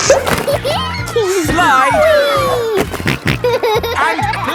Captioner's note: giggles; snorting